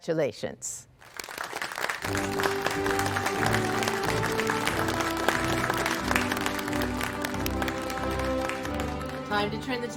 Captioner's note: applause